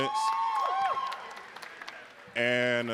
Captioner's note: audience cheering